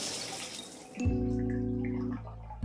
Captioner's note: shuddering